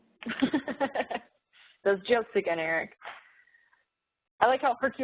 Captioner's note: laughs